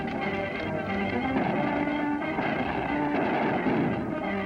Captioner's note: gunshots